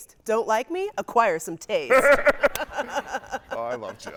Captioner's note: laughing; guy laughing